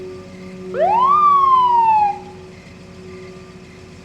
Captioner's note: siren blaring